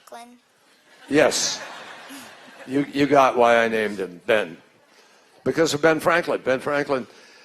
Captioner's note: laughter